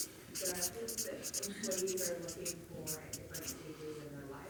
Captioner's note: marker squeaking